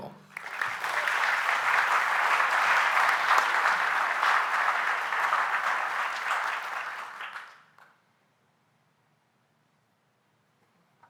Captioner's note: applause